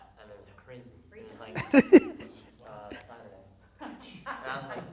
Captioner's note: laughing